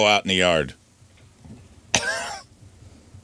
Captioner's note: laughs